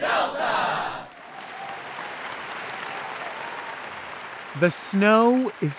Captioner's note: audience cheering and applauding